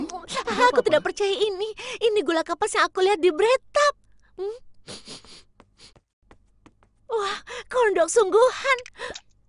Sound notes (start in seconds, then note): 4.9 Ice Cream sniffs